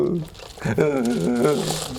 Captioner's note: wimpy noises